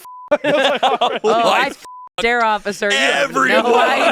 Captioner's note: beep; beep